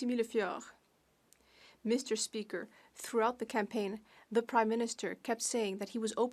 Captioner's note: speaking French